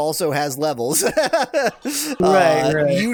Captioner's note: laughs